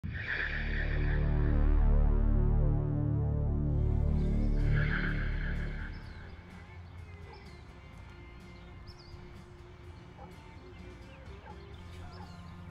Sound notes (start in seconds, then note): 7.2 dog barking